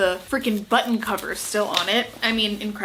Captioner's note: jacket shuffling